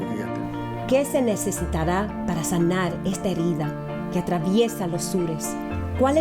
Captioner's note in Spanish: speaks in foreign language